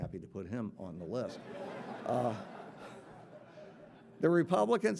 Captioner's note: audience laughing